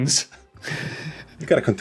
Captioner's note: giggles softly